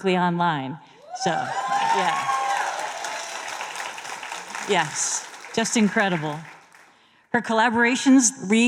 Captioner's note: applause